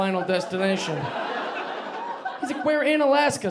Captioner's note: audience laughing